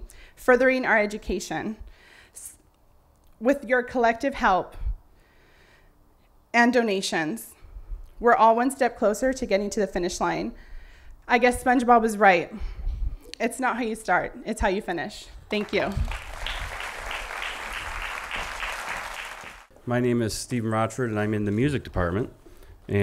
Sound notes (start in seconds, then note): 15.5 applause